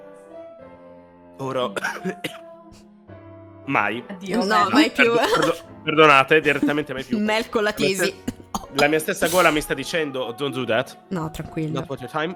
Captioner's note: coughs